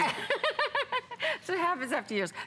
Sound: laughter

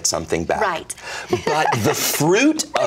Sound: laughs

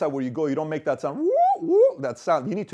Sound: microphone squeal

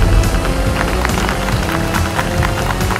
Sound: applause

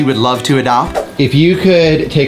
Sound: screen swooshes

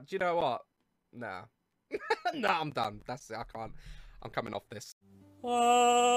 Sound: chuckling

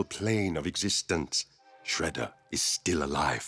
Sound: none

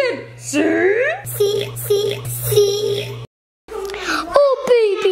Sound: burp

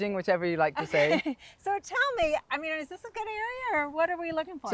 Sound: laughs

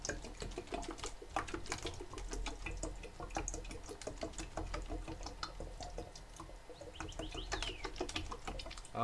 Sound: water gurgling

